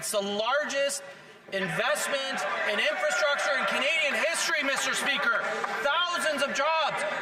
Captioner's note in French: voix de l'interprète